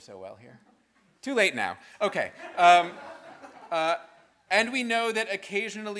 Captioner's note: students laughing